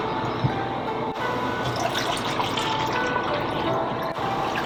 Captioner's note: water running